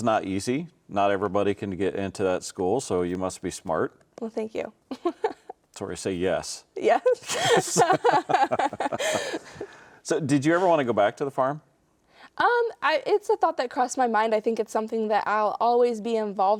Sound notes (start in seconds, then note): 5.0 chuckles; 7.2 both laughing